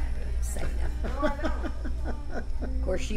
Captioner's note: laughs